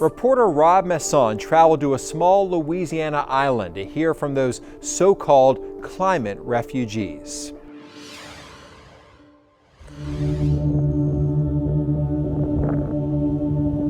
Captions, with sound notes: - Reporter Rob Masson traveled to a small Louisiana island to hear from those so-called climate refugees. (screen whooshing) (gentle somber music)